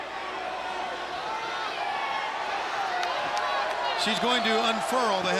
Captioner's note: crowd chatter